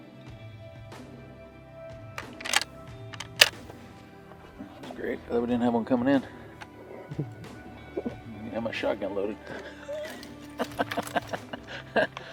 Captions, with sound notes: (gun cocks) That's great I'm glad we didn't have one coming in. I didn't even have my shot gun loaded. (laughter)